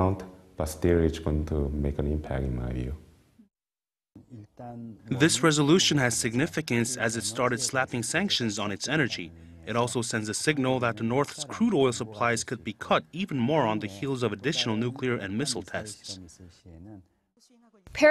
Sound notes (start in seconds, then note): 4.6 Korean